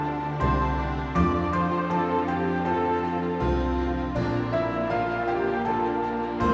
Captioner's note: gentle thoughtful music; townspeople chattering